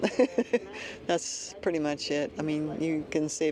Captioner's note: laughter